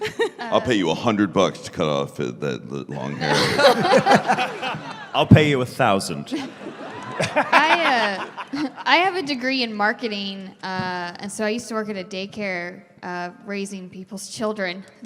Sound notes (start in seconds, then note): 2.9 laughter; 7.2 cackling forever